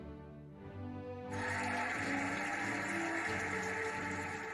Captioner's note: cheering and applauding